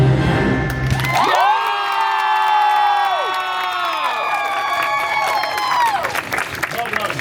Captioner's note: guests cheering and applauding